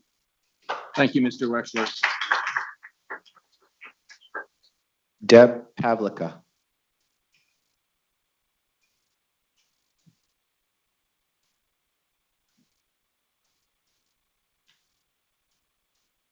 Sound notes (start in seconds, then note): 2.7 people clapping